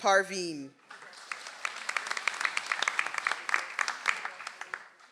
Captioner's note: audience applauds